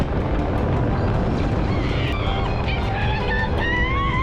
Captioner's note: screams